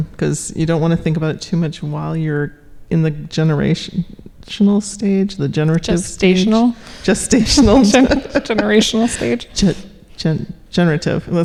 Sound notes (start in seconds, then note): 7.1 laughing